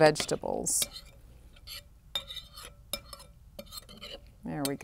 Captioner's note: stirring, scraping